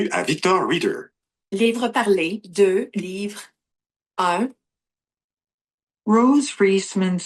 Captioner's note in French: Voix de synthèse